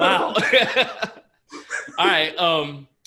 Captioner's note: laughter